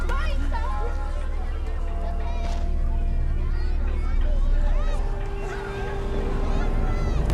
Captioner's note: children chattering; foreboding music